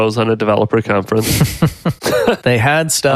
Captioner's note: laughing